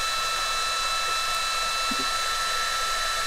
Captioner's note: machine noise